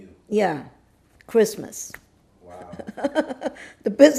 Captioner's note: laughing